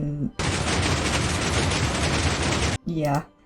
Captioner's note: deafening piston sounds